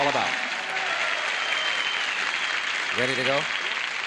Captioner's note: applause